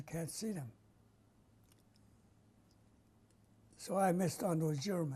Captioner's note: pauses for 3 seconds